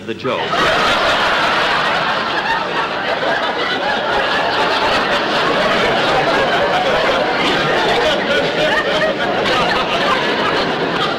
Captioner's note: audience Laughing